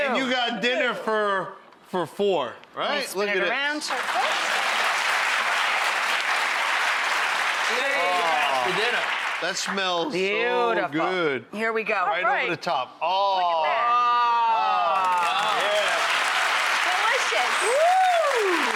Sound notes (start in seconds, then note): 3.8 applause; 14.9 applause